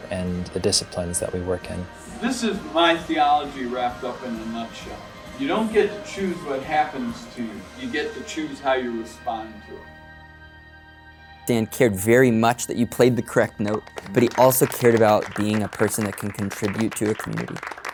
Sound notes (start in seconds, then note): 12.9 musicians clap